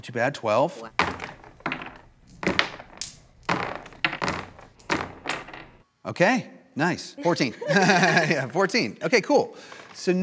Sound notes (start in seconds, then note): 1.1 dice rolls; 7.2 laughs